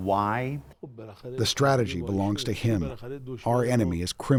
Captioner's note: through translator